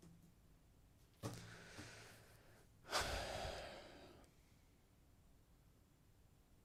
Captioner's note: sigh; silence